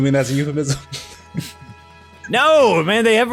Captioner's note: laughter